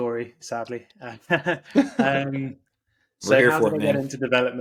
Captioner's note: laughing